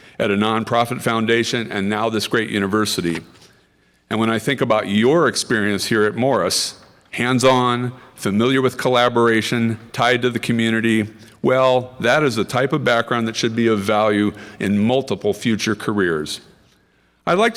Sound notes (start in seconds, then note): none